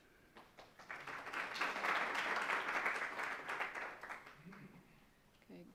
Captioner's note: audience applauds